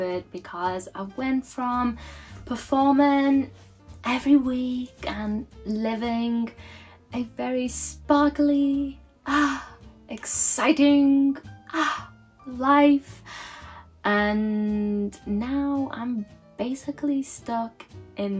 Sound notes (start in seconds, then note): 9.3 sighs